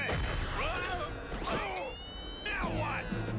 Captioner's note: explosion